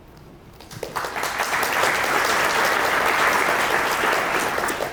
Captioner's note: audience applauding